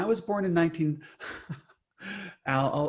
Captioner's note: laughs